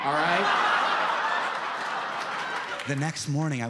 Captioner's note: audience laughs